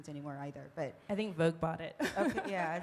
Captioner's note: laughing